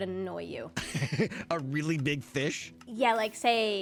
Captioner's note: laughs